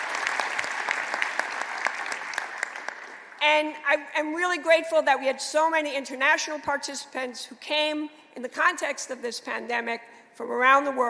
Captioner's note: applause